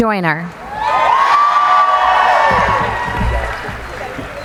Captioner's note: cheering